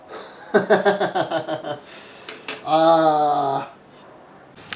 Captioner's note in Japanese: 笑い